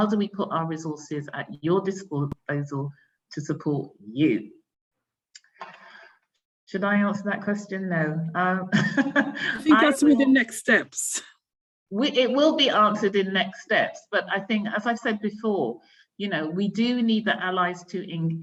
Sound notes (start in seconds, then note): 9.3 laughs